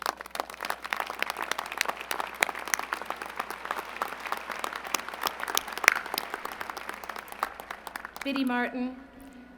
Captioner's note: applause